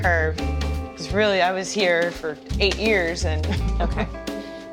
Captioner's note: laughs